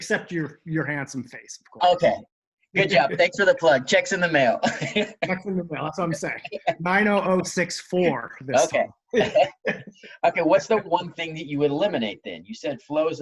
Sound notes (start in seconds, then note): 4.6 laughs; 9.1 laughs